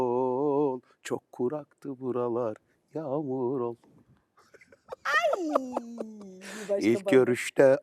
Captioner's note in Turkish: kahkaha